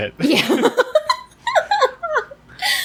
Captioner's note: laughs